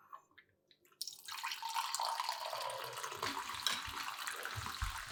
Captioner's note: coffee pouring